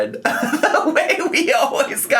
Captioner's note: laughs